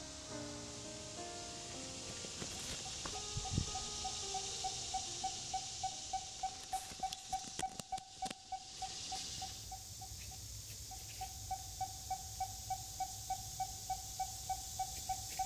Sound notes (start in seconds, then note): 4.3 device beeping